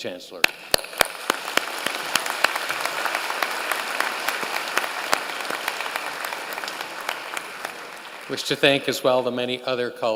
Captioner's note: applause